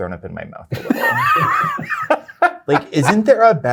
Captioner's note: laughter